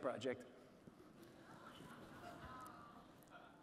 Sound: audience laughing

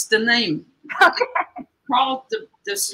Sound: laughter

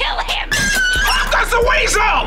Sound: squealing

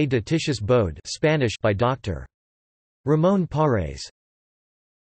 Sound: Spanish

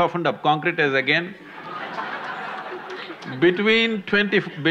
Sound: gestures/Laughter

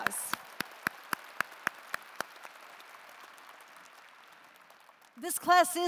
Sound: applause

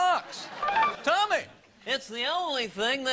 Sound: buzzer rings

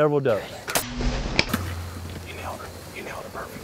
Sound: whispering

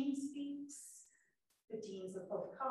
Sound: none

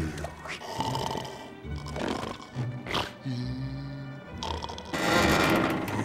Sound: snoring

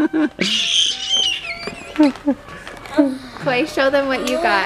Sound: laughing; screaming

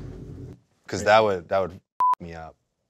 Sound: beep

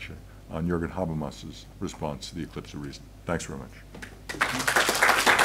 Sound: applause

